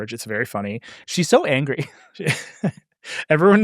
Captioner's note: laughs